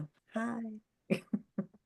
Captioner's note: chuckles